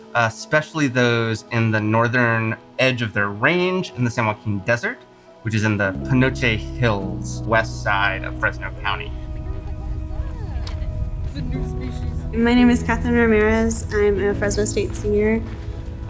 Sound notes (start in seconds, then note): 9.8 people chatting happily in background